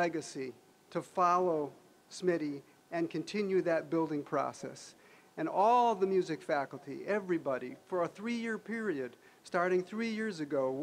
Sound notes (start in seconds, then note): none